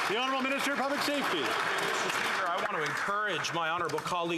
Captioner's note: applause